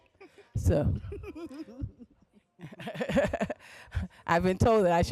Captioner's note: laughter